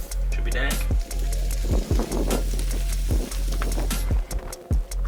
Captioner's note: food sizzling; energetic music